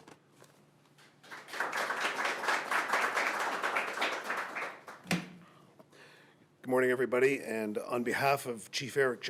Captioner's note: applause